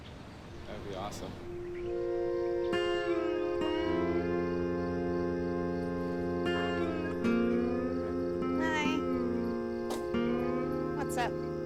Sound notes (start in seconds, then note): 4.2 crickets chirping; 4.2 slow country twang